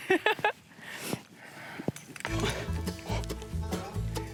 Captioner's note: laughs